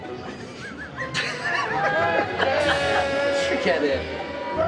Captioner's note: laughing